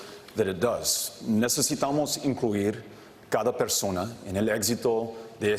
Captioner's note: speaking Spanish